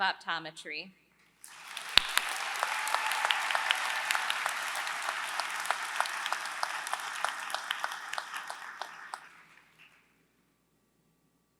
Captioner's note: applause